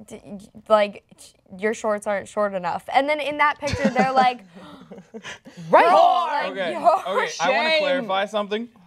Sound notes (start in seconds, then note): 4.5 gasp